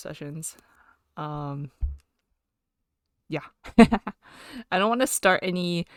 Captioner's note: laughs